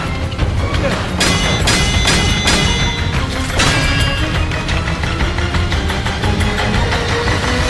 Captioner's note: metal clangs